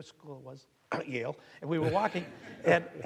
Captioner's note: clearing throat